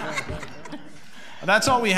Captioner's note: audience laughing